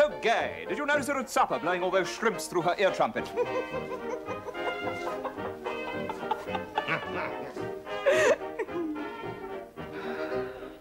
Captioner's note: they laugh